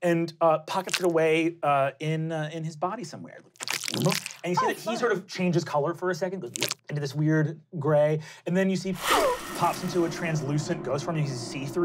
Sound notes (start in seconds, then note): 0.8 slobbering; 3.5 squishing; 6.4 squishing; 9.0 wooshing